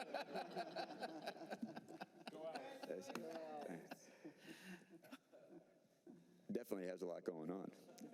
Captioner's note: laughter